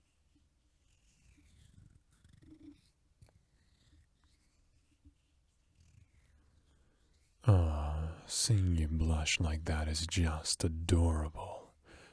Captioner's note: cuddle noises